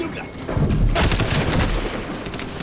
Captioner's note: gunshot